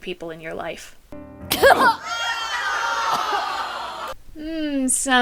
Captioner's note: Emma coughing; audience recoiling